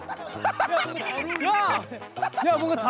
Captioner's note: laughing